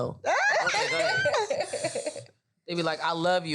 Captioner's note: all laugh